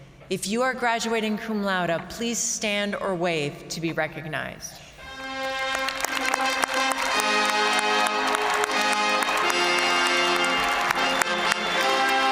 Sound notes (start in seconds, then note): 5.0 triumphant music; 5.1 audience applauding